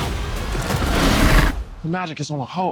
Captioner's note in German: Bestie knurrt